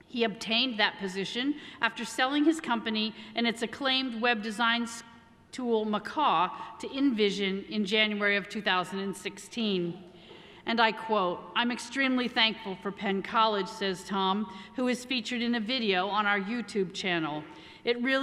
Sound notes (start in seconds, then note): none